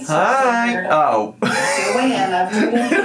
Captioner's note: laughing